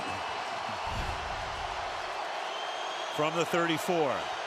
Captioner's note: swoosh